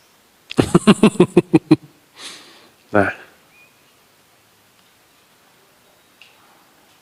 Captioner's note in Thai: เสียงหัวเราะ